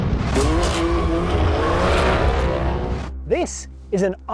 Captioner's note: dramatic music; car engine revving